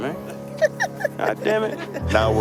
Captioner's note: laughs